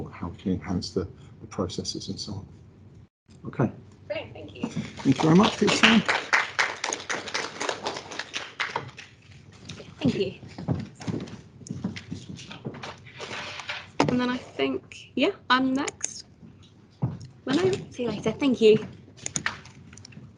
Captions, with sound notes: how to enhance the processes and so on. OK. Thank you very much for your time [ clapping ] Thank you. And then I think, yeah, I'm next. See you later Rob, thank you!